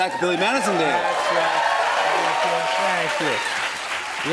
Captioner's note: cheers and applause